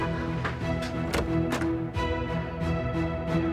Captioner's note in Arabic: يفتح الباب